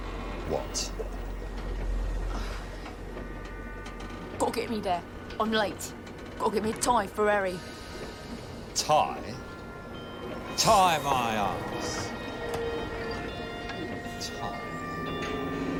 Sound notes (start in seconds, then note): 3.9 imitating %*#